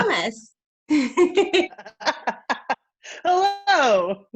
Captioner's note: laughs